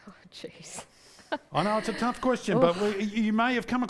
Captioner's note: laughs